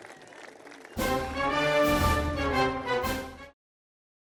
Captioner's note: applause